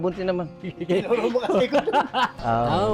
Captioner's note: laughs